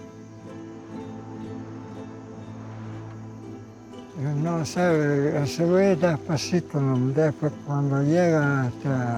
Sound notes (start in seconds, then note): 3.9 speaking Spanish